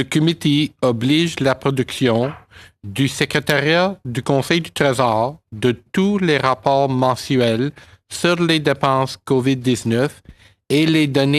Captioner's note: speaking French